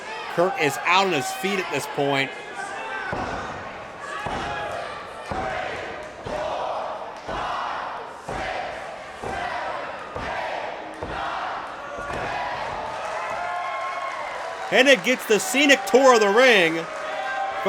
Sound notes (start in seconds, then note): 5.2 crowd; 12.6 crowd cheers